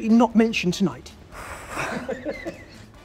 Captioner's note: nervous exhale